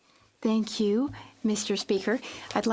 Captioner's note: speaking French